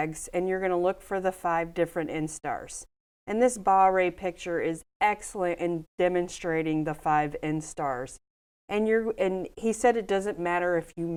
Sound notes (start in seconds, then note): none